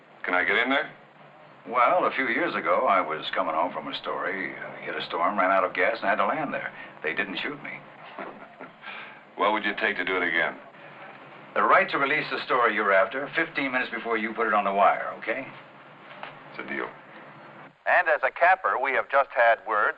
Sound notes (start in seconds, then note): 7.9 chuckles